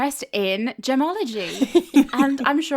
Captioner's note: laughing